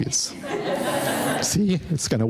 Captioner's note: audience laughing